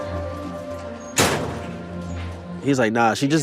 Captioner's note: door thuds